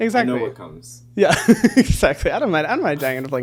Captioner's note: laughing